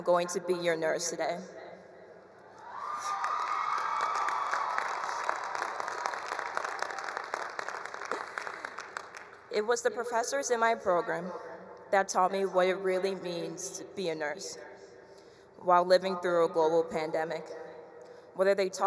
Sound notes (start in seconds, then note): 2.6 attendees cheering; 2.9 attendees applauding